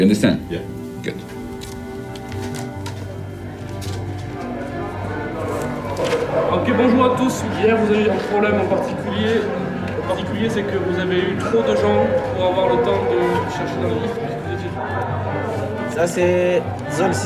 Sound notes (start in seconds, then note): 5.8 man speaking French